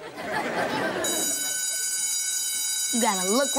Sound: bell ringing

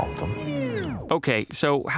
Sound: skipping record

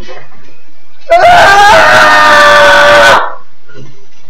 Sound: hellish screaming

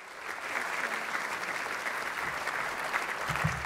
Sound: applause

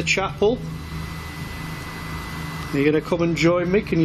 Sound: machine buzzing

